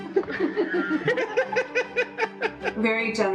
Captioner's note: both laughing